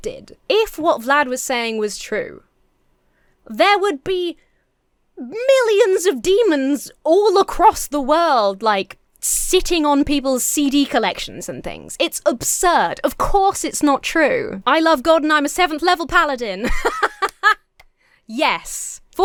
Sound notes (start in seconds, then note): 16.6 laughs; 17.2 claps